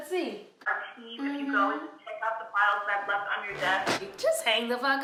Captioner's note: people talking on virtual meeting